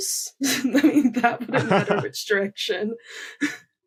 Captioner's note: laughs